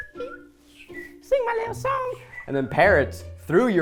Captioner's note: imitating birds tweeting; person whistling